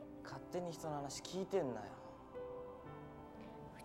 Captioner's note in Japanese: none